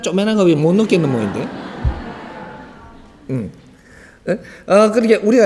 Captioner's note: everybody laughs